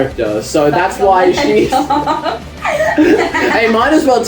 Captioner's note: both laugh